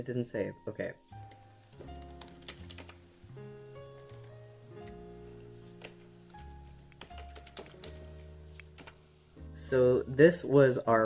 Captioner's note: typing and clicking